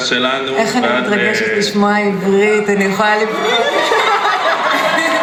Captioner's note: Gal speaks in Hebrew; audience cheering and applause